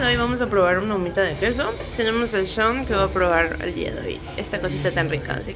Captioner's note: Spanish